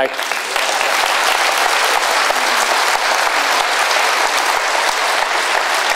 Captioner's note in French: Applaudissements